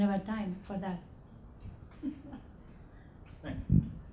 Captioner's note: laughing